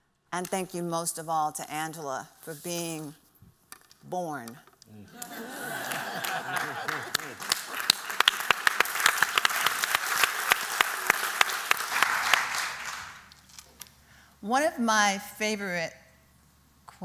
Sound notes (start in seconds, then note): 7.3 applause